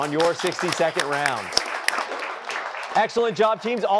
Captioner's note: applause